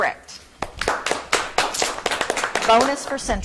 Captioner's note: audience clapping